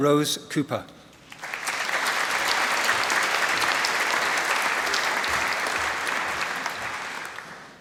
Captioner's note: applause